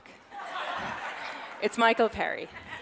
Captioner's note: audience laughs